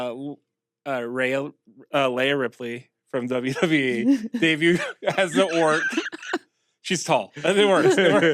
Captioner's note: laugh